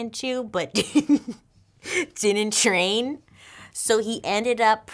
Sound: laughs

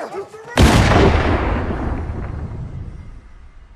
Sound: gun firing

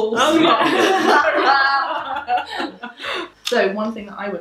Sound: laughing

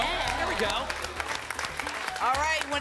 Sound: applause

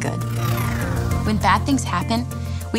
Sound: loud whooshing

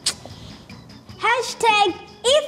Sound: clicks tongue

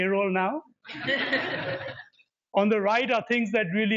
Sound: laughter

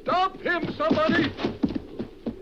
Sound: Elvira crashes

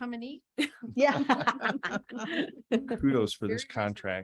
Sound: laughs

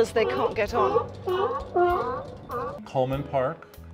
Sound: sea lions continue barking

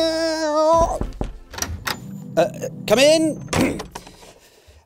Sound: knock on door

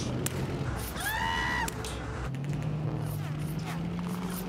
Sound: shrieks

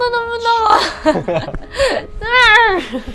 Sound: chuckles

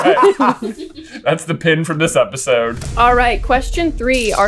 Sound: laughter

